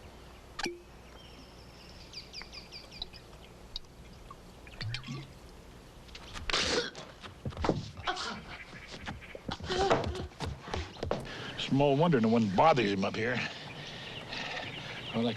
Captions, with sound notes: (Tommy spits) (gasping) Small wonder no one bothers him up here.